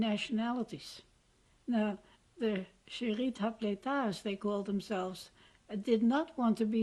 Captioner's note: non-english